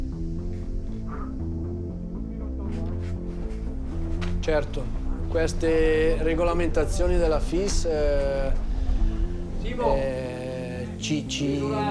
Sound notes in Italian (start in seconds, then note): 0.3 musica coinvolgente; 4.5 parla in italiano